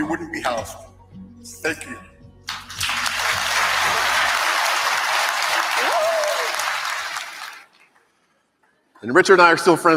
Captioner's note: applause